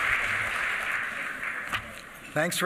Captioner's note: applause